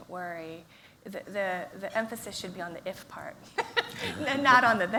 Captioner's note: laughs